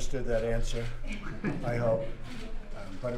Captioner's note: laughter